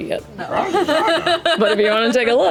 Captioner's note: laughs